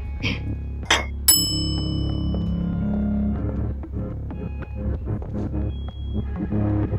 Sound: plate plopping; bell ringing

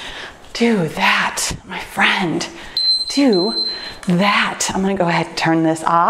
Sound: timer beeps

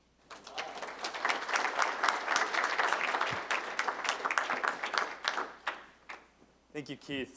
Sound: applause

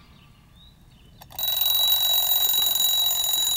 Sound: <i>alarm clock ringing

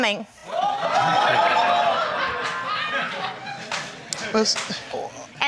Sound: crowd gasping

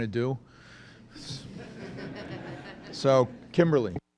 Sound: laughter

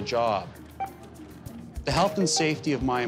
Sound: beeping

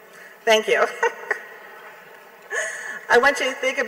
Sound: laughing

